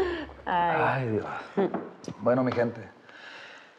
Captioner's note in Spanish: risas